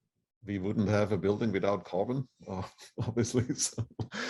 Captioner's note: laughter